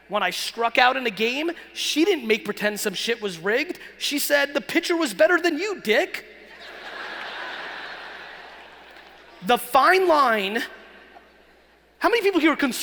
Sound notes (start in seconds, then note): 6.8 laughing